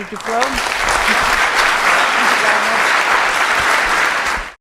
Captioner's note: applause